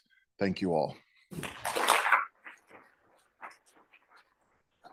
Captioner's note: applause